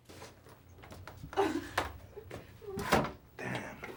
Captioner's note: Nikki continues sobbing